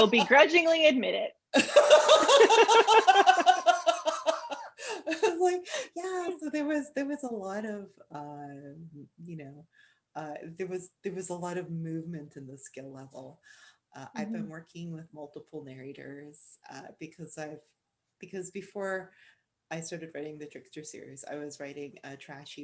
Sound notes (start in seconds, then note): 1.5 laughter